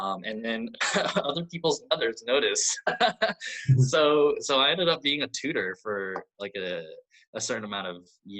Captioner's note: laughs